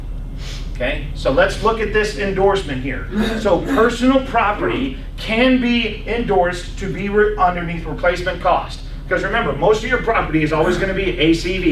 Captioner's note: clears throat